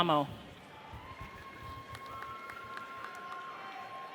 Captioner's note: audience cheers